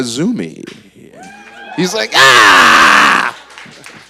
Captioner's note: cheers; applause